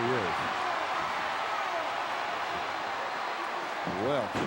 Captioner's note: crowd cheering